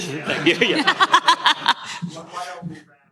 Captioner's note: laughter